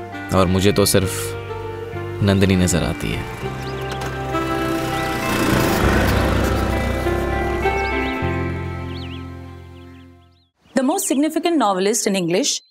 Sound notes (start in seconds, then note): 5.0 scooter revving